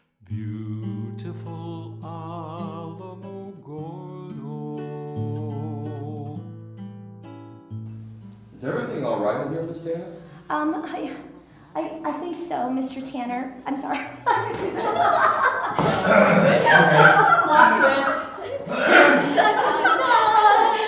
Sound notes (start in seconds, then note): 14.0 laughter